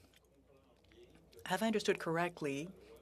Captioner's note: speaking French